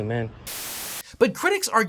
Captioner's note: static crackling